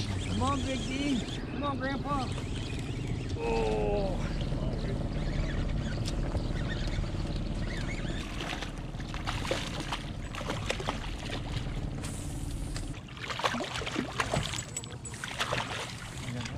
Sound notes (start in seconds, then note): 3.8 rod whipping; 5.3 reel cranking